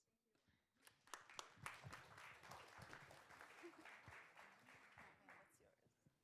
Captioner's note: applause